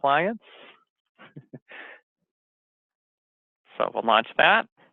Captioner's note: laughs